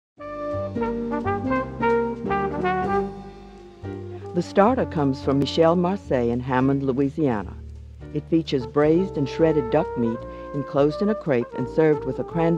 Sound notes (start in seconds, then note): 0.5 jazzy music; 5.2 voiceover